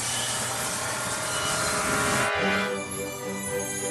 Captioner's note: tinkling